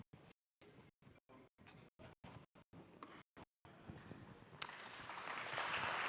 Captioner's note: applause